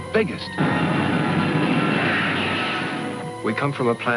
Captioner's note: ship engines approaching